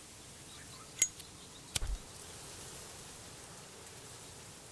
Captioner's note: lighter rasps